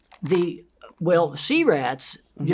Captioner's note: bottle top twisting